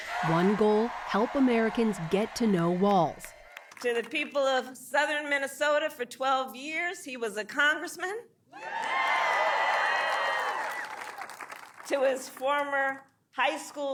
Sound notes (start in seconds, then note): 11.7 applause; 11.7 cheering